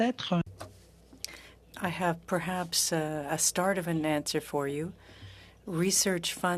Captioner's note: speaking French